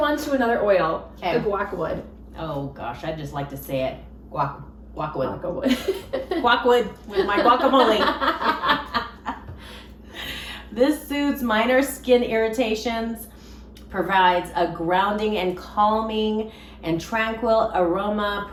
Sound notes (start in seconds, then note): 5.6 laughs; 8.6 both laughing